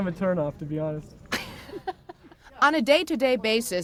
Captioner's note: journalist laughs